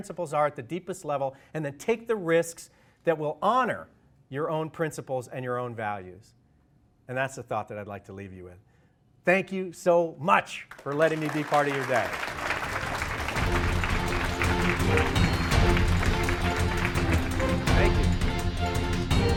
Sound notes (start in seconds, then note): 12.8 applause